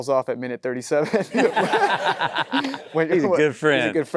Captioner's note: chuckles; everyone laughing